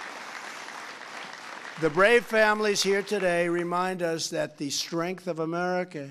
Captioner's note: applause